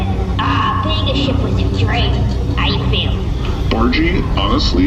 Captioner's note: happily